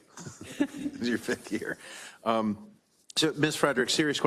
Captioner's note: laugh